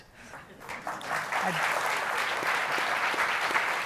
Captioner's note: applauding